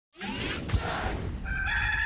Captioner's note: dramatic noise; rooster crow